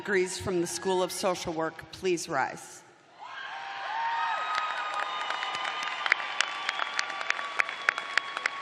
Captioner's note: cheers and applause